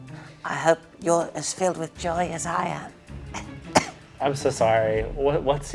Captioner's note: coughs